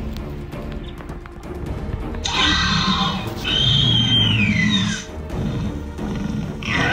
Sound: Raptors attacking

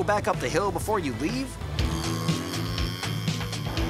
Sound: motor noise

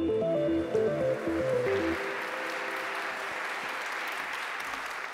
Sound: audience clapping

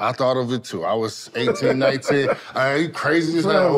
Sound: group laughs

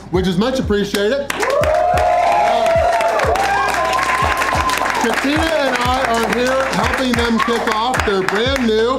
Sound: crowd clapping and cheering

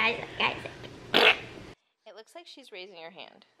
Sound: fart noise

